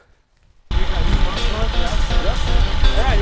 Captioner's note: drilling sounds; energetic country music